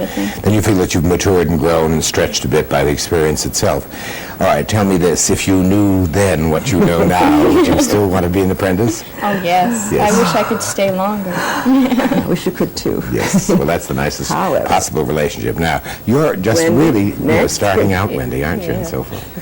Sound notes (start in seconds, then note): 6.6 laughter; 13.2 laughs